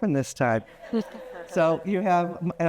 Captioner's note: attendees laughing